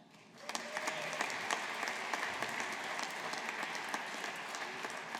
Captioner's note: audience applauding